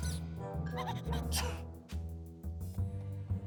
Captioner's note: sneezes